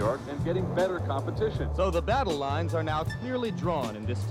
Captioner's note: man over TV